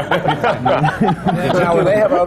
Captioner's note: laughter